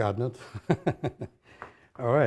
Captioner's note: laughs